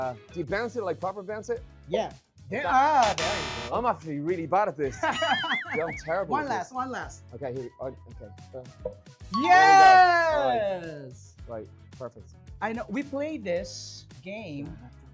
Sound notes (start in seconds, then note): 5.2 chuckles